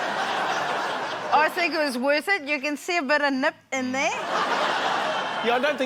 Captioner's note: laughter; laughter